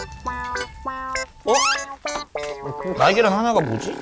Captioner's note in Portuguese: Rugido